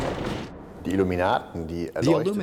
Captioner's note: speaking in German